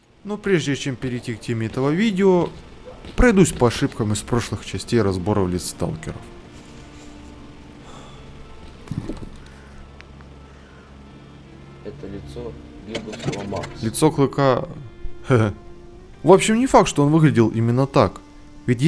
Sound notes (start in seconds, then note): 11.3 sigh